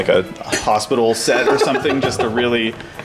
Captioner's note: laughter